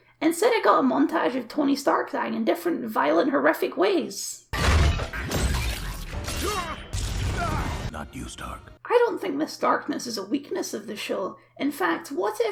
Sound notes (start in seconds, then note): 4.5 decapitation splat